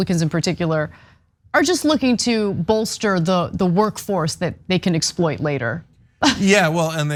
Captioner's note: laugh